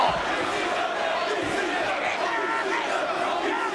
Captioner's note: crowd chanting